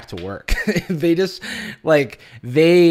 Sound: laughing

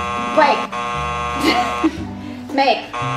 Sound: buzzer buzzing

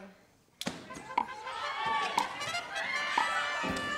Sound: clock ticks down

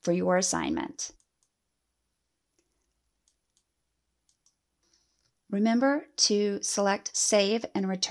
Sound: clicking

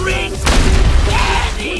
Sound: explosion sound

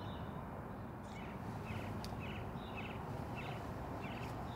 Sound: birds chirping

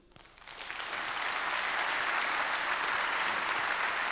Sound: applause

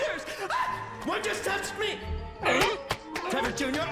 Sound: screams; seal barks and claps

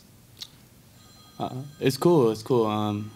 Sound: phone ringing

